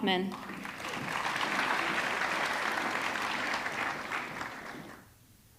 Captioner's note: audience clapping